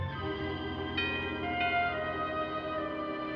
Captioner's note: doorbell ringing